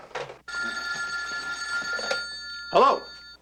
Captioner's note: ring